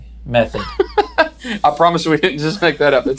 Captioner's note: laughs